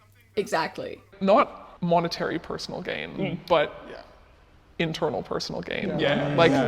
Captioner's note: sounds of agreement